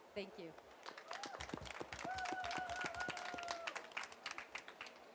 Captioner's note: applause